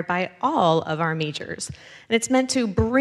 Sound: none

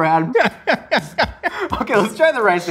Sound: laughs

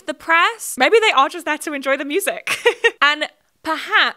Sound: laughs

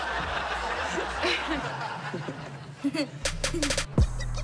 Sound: laughs; Kurt laughs

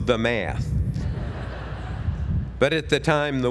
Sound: laugh

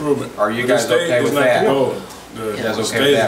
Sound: overlapping chattering

